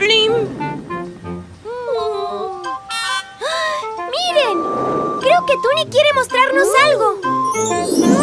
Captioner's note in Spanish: Sonido de bocina